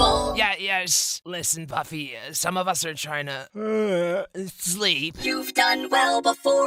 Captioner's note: yawn